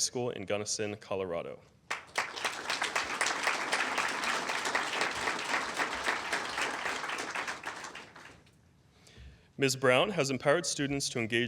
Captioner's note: applause